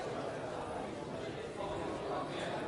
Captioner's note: crowd noises